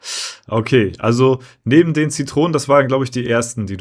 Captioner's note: snorting